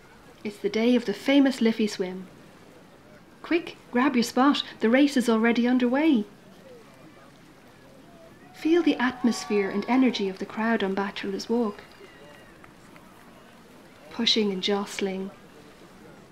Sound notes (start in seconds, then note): 8.0 cheering